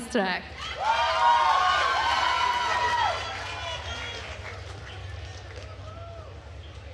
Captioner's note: attendees cheering and applauding